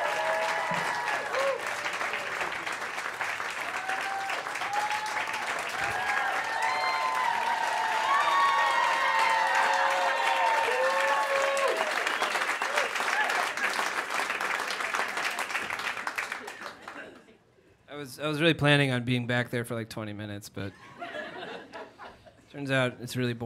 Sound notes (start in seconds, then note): 0.3 applause and cheering; 9.9 cheering intensifies